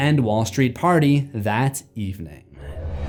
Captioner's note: impact